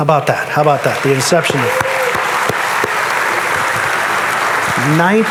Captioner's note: audience applauding